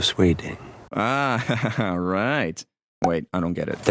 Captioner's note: chuckles